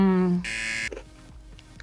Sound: buzzer

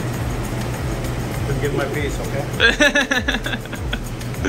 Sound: laughs

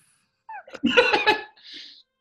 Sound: giggling

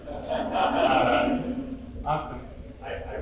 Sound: audience laughing

